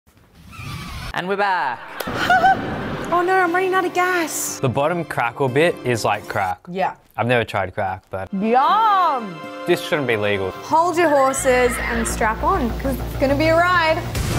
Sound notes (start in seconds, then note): 0.0 tires screeching; 2.0 giggles; 14.1 bright music